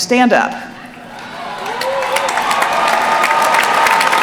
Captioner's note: applause